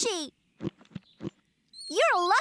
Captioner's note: squish, Squish